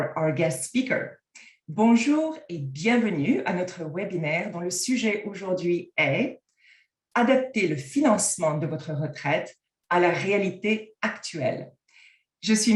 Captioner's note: french